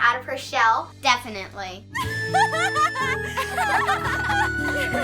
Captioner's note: laughter